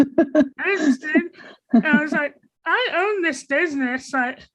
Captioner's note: interviewer laughing